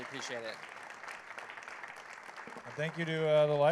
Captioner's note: applause